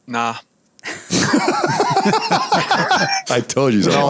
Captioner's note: laughter